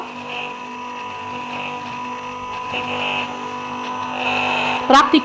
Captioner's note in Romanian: sunetul blenderului